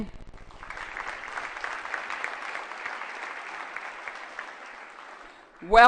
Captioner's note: applause